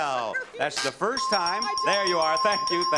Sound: bell rings

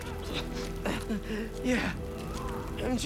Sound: laugh

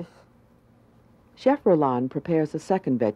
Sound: voiceover

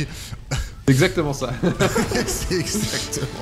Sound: laughs

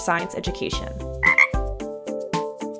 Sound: ribbit!

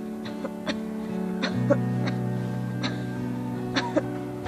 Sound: Manuel coughing

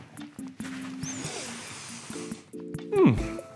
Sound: inhales loudly

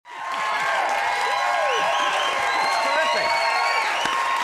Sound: audience cheering and whooping loudly; audience keeps cheering

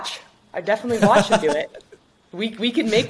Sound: chuckles

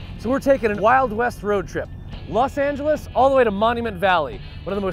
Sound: none

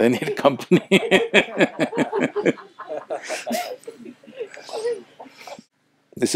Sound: laughter

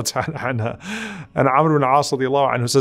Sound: laughs

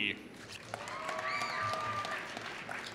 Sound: applause

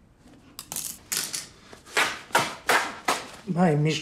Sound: fabric ripping

